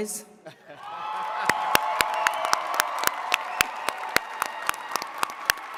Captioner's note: attendees cheering and clapping